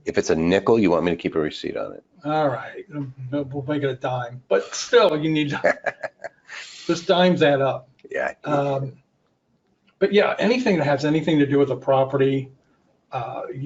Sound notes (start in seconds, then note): 4.4 person laughing